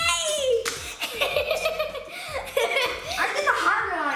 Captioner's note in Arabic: يضحك